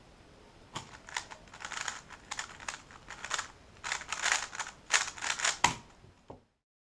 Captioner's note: cube noises